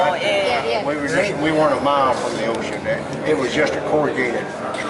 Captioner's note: koreans talking